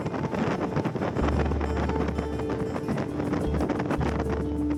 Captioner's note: wind howling